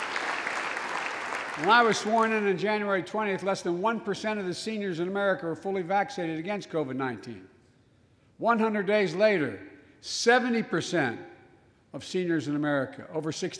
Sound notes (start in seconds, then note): 3.1 applause